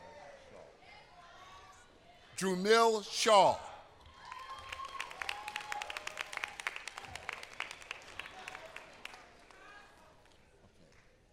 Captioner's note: applause